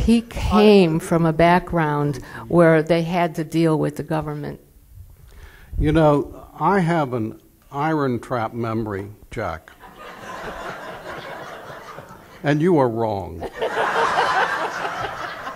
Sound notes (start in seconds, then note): 13.4 laughter